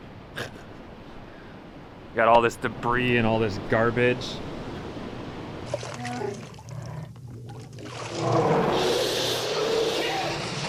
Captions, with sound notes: Got all this debris and all this garbage. (Chewbacca roars) (roaring)